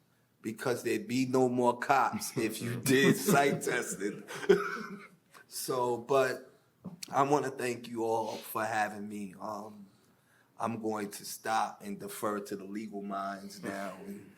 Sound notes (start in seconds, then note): 4.4 laughing